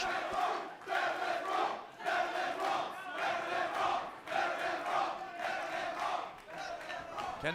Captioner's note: fans chanting